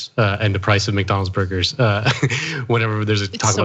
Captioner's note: laugh